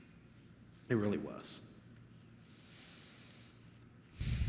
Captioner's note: sighs